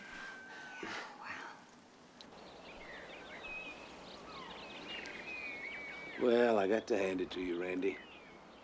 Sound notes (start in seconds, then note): 2.1 birds chirping